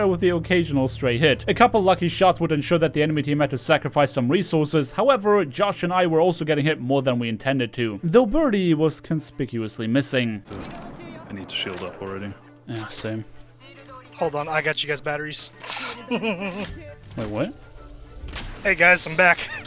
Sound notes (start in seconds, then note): 15.8 maniac Laugh